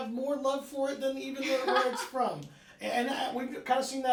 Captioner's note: laughing